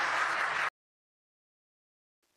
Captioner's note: applause